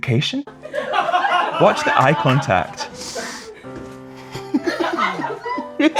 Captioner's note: laughter